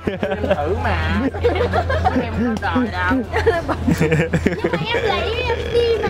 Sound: laughter

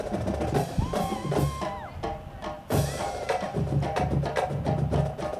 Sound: audience applauding

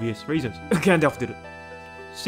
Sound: cough

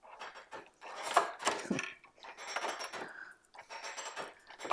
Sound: metal rattling

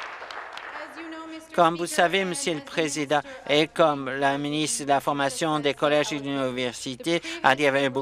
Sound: applause

